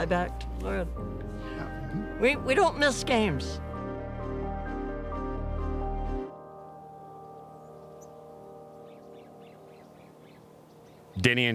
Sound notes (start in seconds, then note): 7.0 gentle music; 9.7 birds chirping